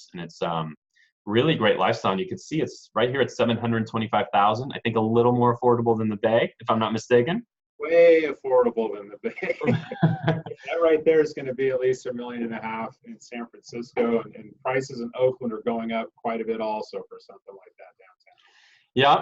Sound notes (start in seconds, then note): 9.2 laughs